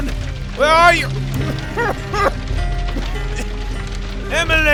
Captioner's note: Albert coughs because of the smoke